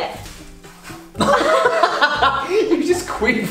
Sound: both laugh

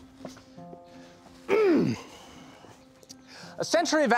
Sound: clears throat

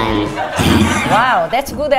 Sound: audience laughs

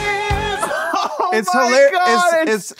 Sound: laughs

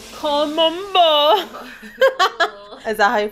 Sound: laughing

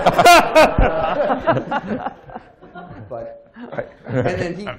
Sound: laughter

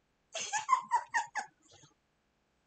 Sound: giggles

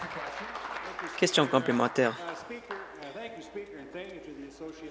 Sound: applause

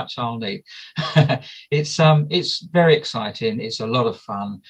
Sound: laughs

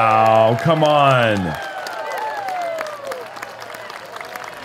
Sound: cheering

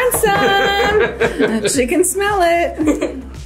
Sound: laughing

